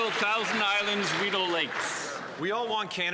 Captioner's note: some Applause